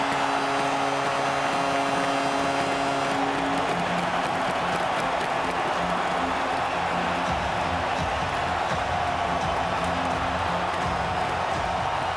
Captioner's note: horn; cheering and APPLAUSE